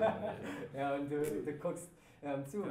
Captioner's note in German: Alle lachen